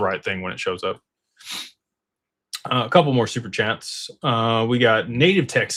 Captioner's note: snorts